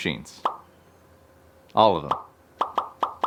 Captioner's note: image pops